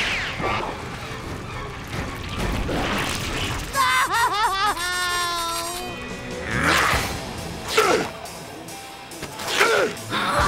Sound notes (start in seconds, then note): 3.7 screaming; 7.6 grunting